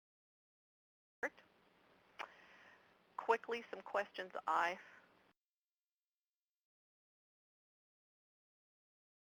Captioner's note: audio cuts out